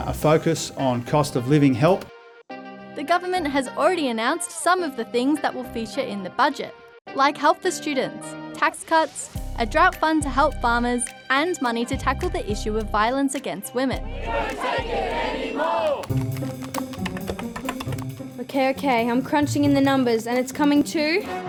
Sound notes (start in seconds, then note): 16.0 typing